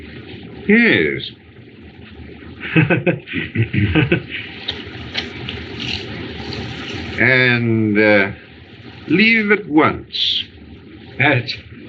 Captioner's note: chuckles